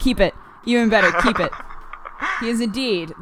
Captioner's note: cry using radio-esque voice filter; laughs